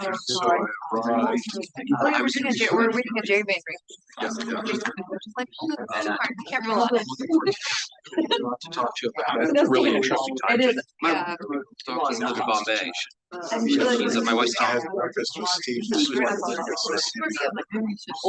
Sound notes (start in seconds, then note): 3.7 audience chattering continues